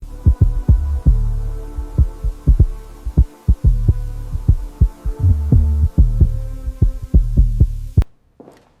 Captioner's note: heartbeat